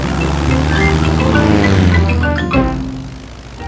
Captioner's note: plane engine revving